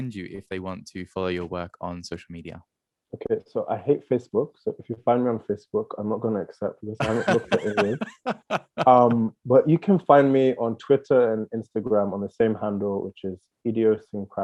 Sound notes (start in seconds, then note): 6.9 laughing